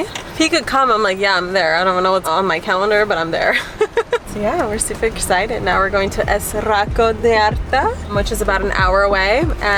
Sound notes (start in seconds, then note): 3.4 laughs